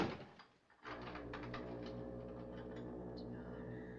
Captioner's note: door Opens, Closes; foghorn Blows; key Turns In Lock